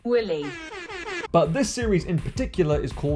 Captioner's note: airhorn